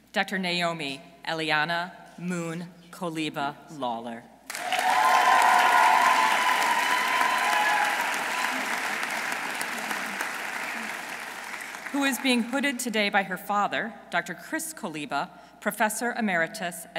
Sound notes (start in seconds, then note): 4.5 audience cheering; 4.5 audience applauding